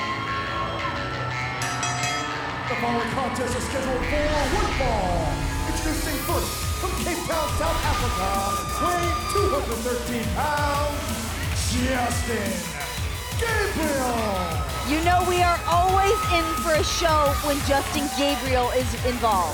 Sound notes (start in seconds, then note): 1.3 bell ringing